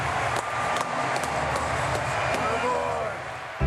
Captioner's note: clapping